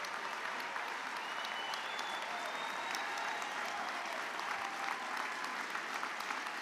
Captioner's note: applause